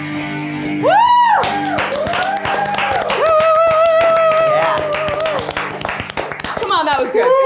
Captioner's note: everyone claps